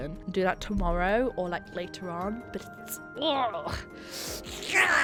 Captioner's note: sighs